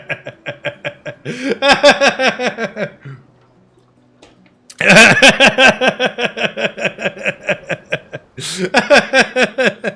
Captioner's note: laughing